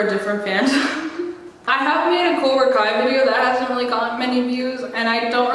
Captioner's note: laughs